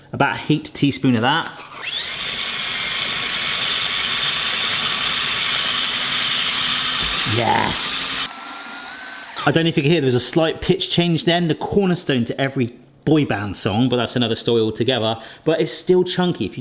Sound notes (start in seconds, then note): 2.0 chopper whirring